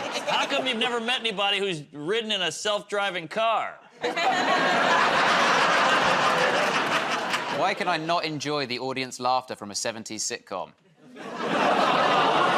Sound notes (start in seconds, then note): 0.0 laughter; 3.9 laughter